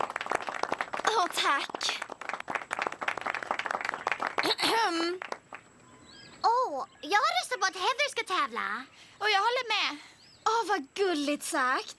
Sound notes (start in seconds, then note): 3.9 clears throat